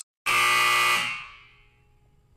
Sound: buzzersounds

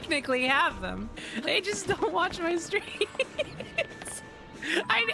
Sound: laughter

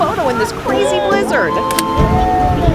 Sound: camera clicks

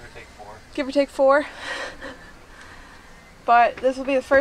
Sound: laughs

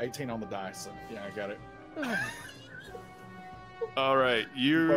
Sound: laughing

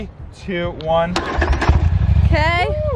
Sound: engine roars

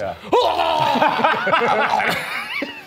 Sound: group laughing; shouting

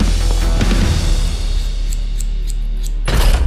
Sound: snipping

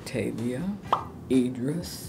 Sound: bubble pops

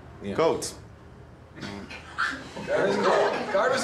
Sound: laughs

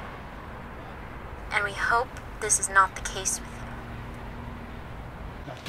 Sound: woman on phone

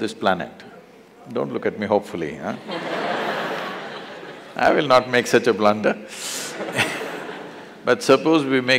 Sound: laughter

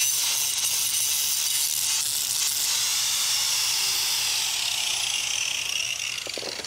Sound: sander grinding

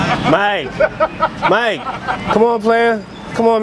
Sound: laughing in background

